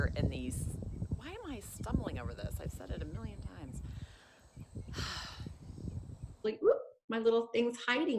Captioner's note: heavy sigh